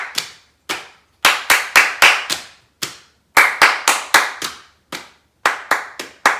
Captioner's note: clapping and tapping